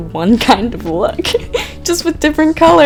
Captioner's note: laughing